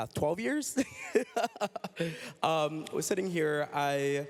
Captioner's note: laughs